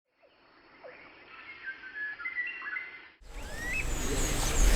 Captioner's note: birds chirping